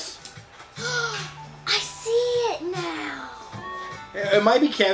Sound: gasps

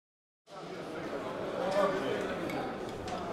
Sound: chattering

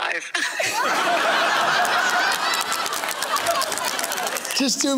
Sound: laughing continues

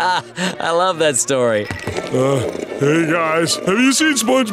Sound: chuckles

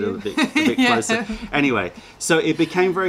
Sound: laughter

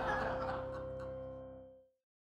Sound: audience laughter

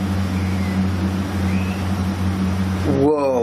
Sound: whistling

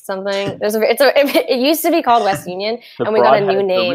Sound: stammers

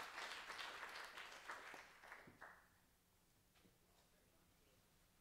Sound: applause

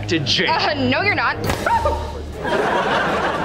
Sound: squealing

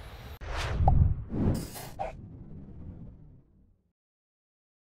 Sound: logo whooshing

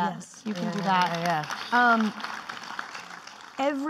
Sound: clapping

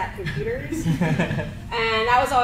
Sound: crowd laughs

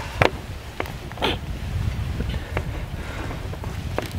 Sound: groaning

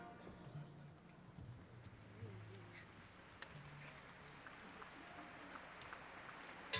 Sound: applause

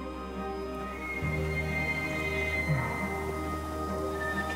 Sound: elk bugling

